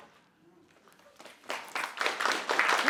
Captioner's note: applause